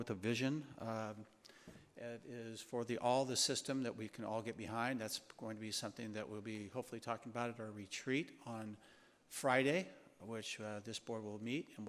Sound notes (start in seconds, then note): none